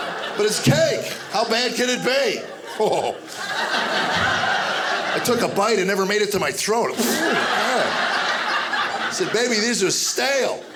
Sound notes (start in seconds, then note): 0.0 audience laughing; 2.3 audience laughing; 7.0 spitting